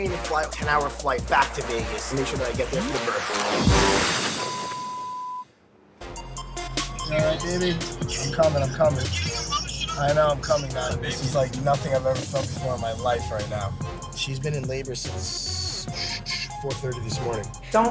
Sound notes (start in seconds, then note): 4.3 beep